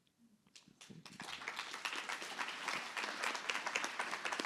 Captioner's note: applause